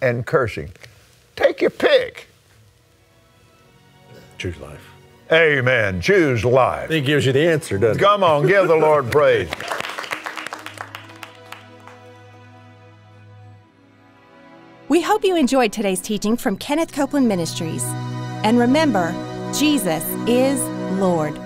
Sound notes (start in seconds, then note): 8.8 everyone claps; 14.2 upbeat music